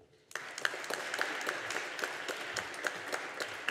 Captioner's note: audience applauding